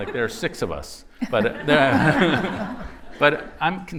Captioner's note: laughter